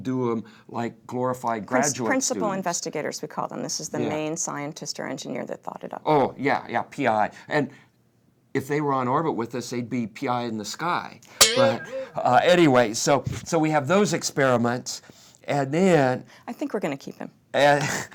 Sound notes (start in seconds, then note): 11.4 boing Sound